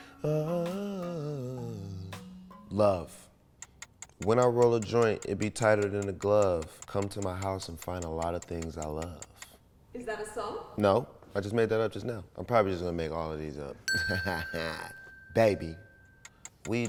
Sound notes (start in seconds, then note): 0.2 humming; 13.9 bell dings; 13.9 chuckles